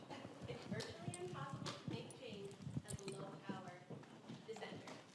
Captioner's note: faintly speaking